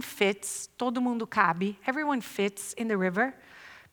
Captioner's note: non-english speech